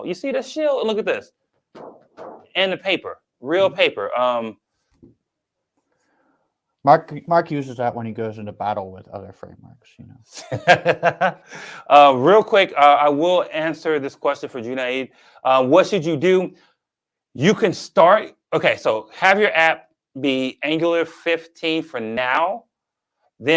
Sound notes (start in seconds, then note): 11.4 laughs